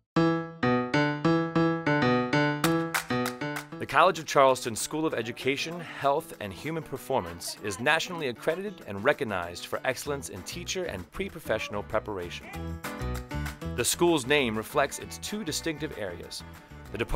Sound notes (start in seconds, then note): 0.2 upbeat piano music; 3.9 voiceover